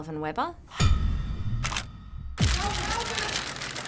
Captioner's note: camera shutters clicking; screen crashes